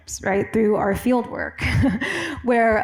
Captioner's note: laughs